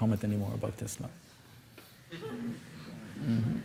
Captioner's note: laughter